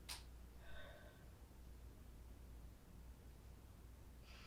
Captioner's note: Casey sighing